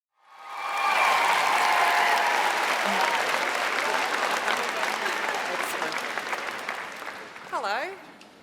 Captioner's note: applause